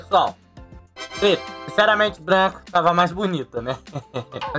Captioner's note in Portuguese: Riso